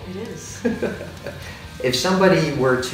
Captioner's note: laughs